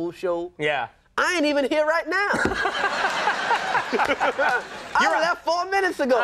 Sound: audience laughs

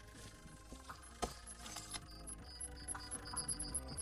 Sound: beeping

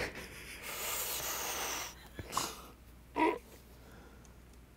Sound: laughing; inhaling sounds

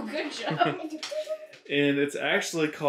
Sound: laughs

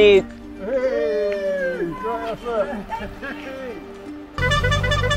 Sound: cheering

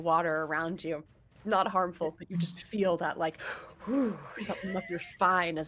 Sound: shudders

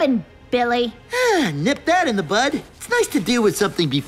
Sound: sighs

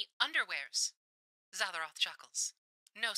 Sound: radio Filter

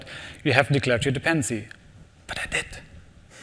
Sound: whispering

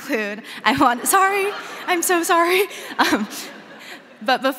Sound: crowd laughing

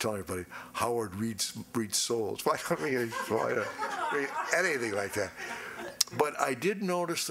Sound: laughing

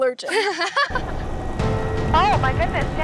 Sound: laughter

